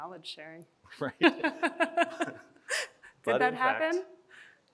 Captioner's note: chuckles